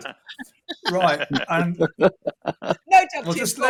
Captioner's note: laughter